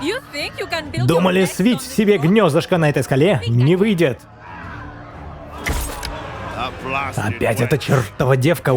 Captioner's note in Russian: крик